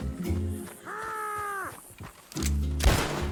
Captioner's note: meat Wobble Grunt